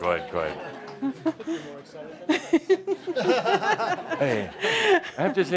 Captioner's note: laughter